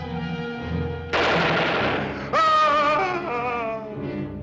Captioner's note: gun fires; Ben screams